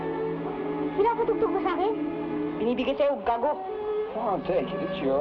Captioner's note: people speaking in Tagalog